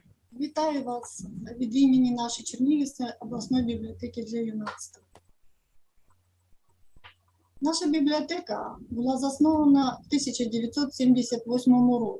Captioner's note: foreign Language